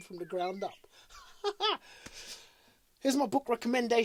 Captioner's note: laughs